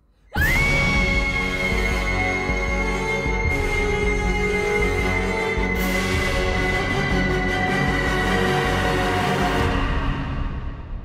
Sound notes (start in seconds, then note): 0.3 Ella screaming; 3.3 ghostly scream